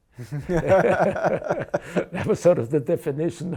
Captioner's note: laughing